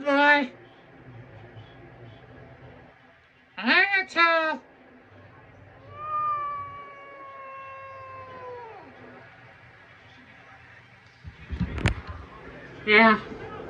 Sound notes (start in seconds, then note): 2.2 angrily meows